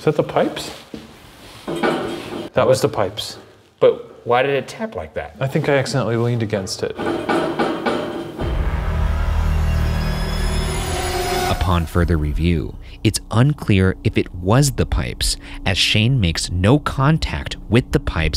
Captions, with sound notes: - Is that the pipes? That was the pipes. - But why did it tap like that? - I think I accidentally leaned against it. (pipes banging) (suspenseful music) - Upon further review, it's unclear if it was the pipes, as Shane makes no contact with the pipes